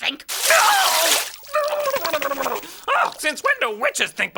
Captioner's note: water rushing and owl exclaiming